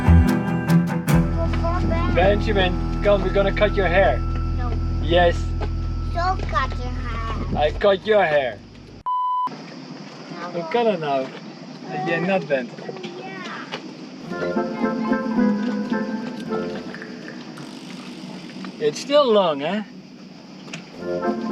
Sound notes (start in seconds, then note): 0.3 dramatic music; 8.4 beeping sound; 14.2 whimsical music